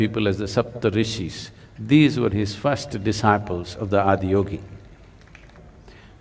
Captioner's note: applause